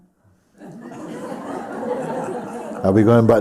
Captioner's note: laughter